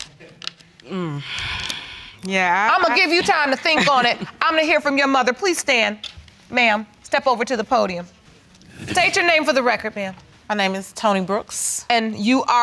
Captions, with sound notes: Mmm. (EXHALES) I'm gonna give you time to think on it. I'm gonna hear from your mother. Please stand, ma'am. Step over to the podium. State your name for the record, ma'am. My name is Toni Brooks.